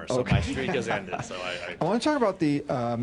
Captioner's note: laughter